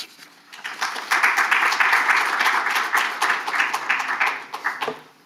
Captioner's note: audience applauding